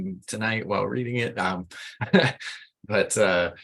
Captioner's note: laughs